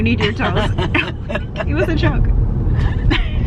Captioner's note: laughing; laughing